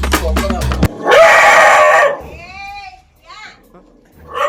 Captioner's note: dog barking